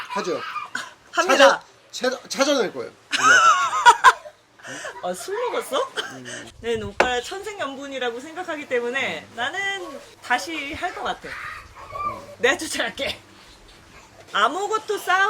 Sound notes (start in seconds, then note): 5.1 laughing